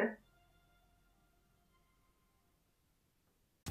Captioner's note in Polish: cisza